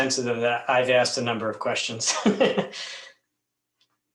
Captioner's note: laughs